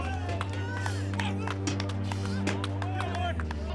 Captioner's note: crowd clapping